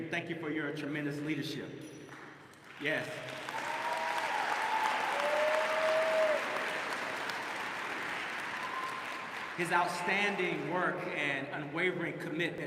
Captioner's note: applause